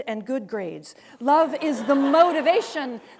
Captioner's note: students laughing